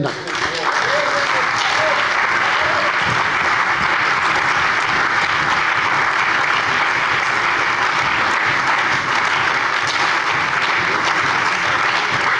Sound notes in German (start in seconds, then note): 0.0 Anhaltender Beifall bei der CDU und dem BÜNDNIS 90/DIE GRÜNEN